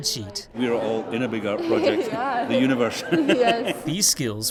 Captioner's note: laugh